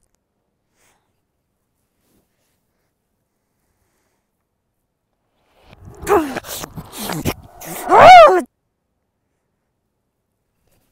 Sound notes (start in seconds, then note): 5.8 angry grunting